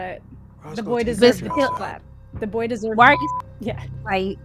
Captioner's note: beep; beep